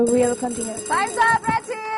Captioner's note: bell rings